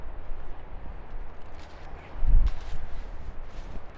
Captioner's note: wind blowing